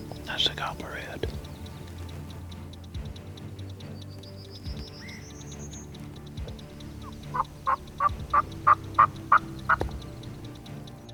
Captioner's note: whispering